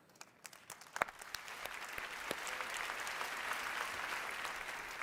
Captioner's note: audience applauding